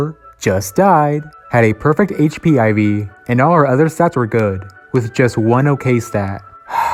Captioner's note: sigh